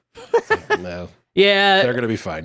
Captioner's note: laughing